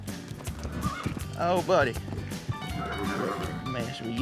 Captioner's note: horse whinnies; horse grunts